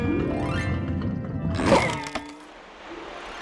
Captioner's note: crate crunches